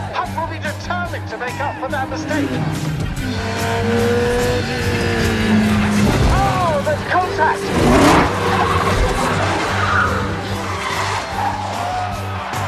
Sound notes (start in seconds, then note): 3.4 race cars zooming; 8.9 tires squealing